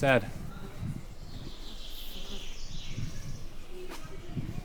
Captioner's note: birds chirping